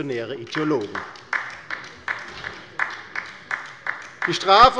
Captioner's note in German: Beifall bei der LINKEN